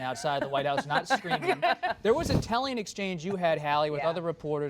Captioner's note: laughter